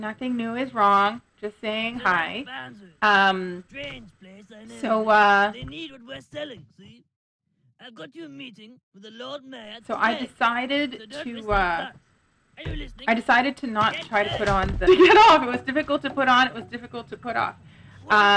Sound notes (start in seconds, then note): 13.8 laughs